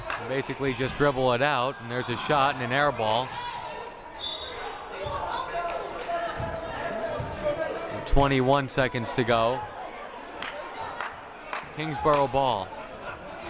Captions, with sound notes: Basically just dribble it out. There's a shot and an air ball. (whistle blaring) (crowd murmuring) 21 seconds to go. Kingsborough ball.